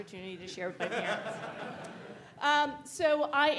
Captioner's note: audience laughing